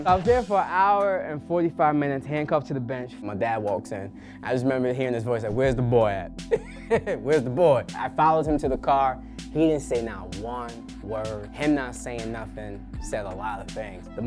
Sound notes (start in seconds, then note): 6.5 laugh